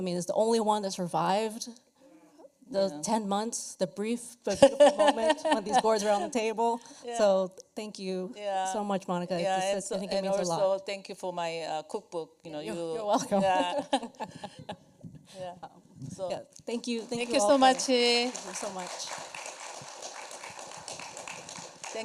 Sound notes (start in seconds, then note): 13.1 chuckles; 20.8 applause